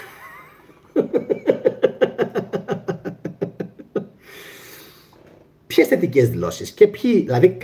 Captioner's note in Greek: γέλια